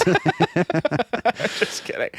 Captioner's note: laughing